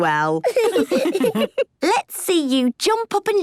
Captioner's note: laughs